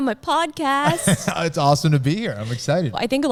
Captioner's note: laughing